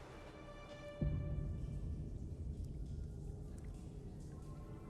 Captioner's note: water dripping